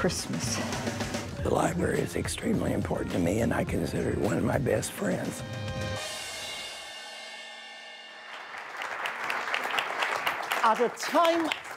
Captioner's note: applause